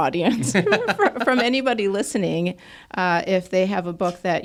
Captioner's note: laughs